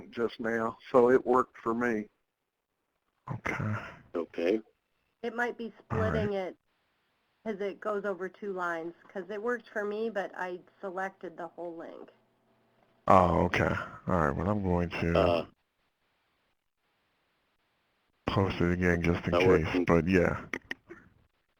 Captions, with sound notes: just now, so it worked for me. - [Voiceover] Okay. - [Voiceover] It might be splitting it as it goes over two lines, 'cause it worked for me, but I selected the whole link. - [Voiceover] Ah, okay. Alright. Well I'm going to post it again just in case, but yeah.